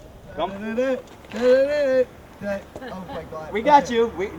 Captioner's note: humming